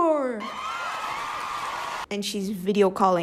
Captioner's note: applause